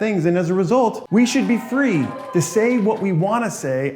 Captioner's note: crowd cheering